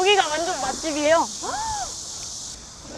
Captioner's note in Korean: 아주 큰 감탄